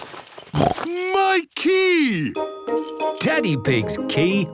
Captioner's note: snorts